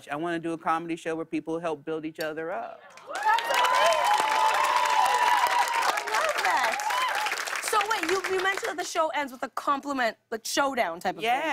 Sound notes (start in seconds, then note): 2.9 cheers and applause